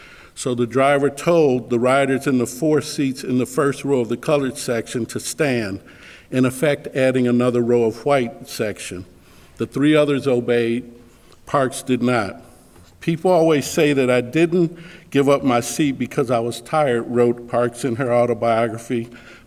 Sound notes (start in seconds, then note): none